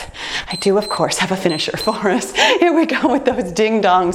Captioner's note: timer beeps